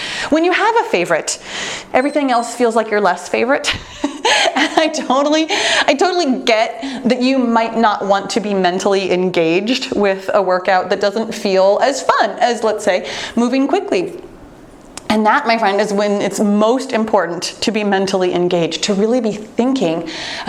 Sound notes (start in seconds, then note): 1.9 timer beeps